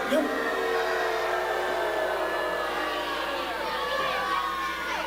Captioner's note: crowd boos and yells